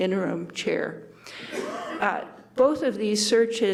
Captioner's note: man coughs